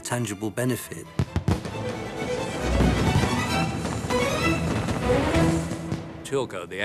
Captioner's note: dramatic music; fireworks popping